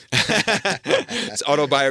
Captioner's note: laughing